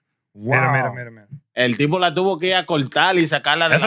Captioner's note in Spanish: Hablando en idioma extranjero